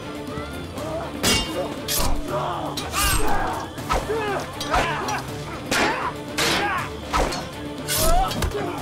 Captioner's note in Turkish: Kılıç sesleri; Bağırma sesleri; Müzik - Hareketli